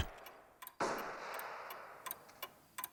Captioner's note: gunfire